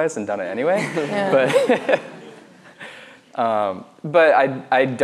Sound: laughs

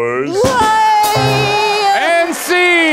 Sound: both cheering

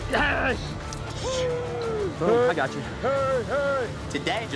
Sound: cowboys shouting

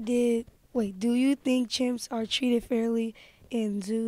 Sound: voiceover

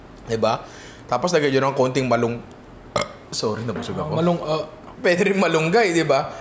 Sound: burps

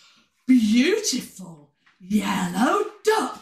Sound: none

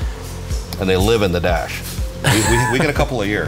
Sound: laughing

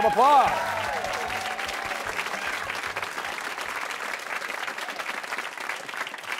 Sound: cheers and applause

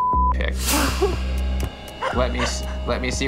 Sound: chuckles nervously

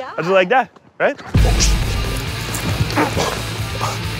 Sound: grunts

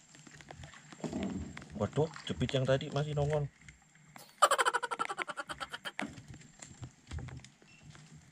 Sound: laughter

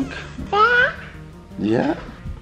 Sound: baby coos

